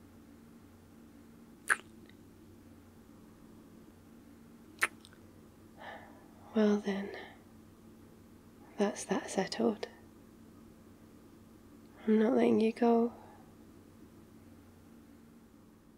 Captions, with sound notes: *kiss* *kiss* *breathless* well then... that's that settled I'm not letting you go...